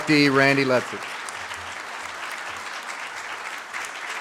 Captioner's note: audience claps